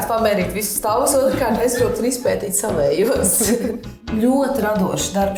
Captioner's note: laughs